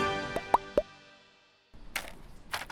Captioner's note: orchestral music; popping; tapping